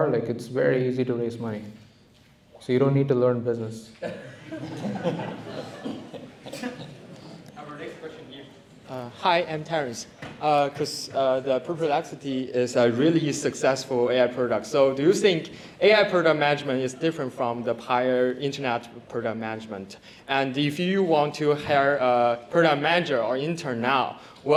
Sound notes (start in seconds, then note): 4.0 laughter